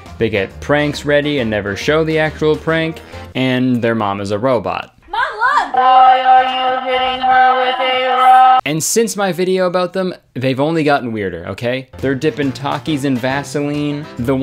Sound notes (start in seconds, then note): 6.1 robot Voiced Mom